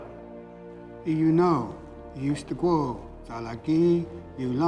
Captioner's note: speaking Cherokee